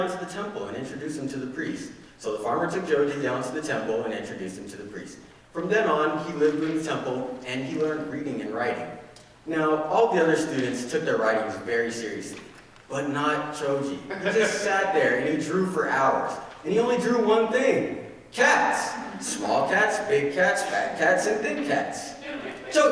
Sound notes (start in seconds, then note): 14.1 audience laughing